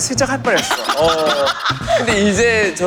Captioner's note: laughter